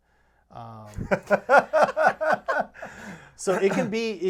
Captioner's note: laughing